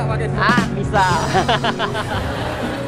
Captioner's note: laughs